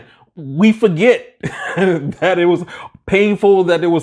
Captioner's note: laughing